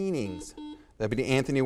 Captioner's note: buzzer beeps